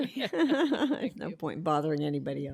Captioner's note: laughter